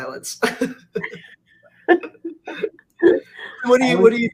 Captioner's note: laughs